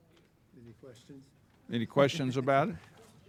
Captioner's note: people chattering